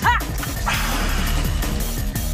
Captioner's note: sighs